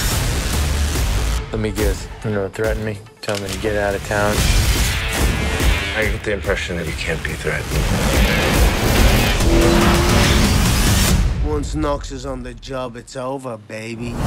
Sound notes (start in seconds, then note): 0.1 dramatic music; 5.4 dramatic music; 8.0 dramatic music; 9.4 engine revving